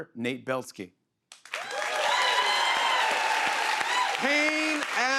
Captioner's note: cheers and applause